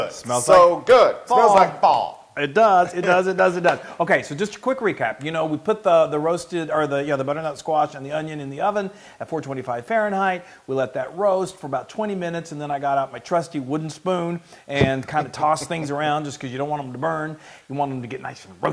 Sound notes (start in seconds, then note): 2.3 laugh; 14.9 laugh